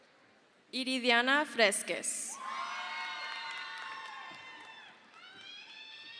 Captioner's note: crowd cheers